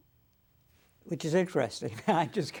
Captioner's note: laughs